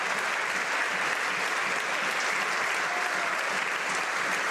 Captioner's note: some Applause